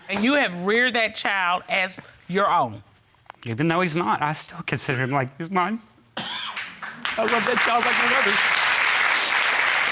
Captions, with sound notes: And you have reared that child as your own? Even though he's not, I still consider him like he's mine. I love that child like no other. (AUDIENCE APPLAUDING)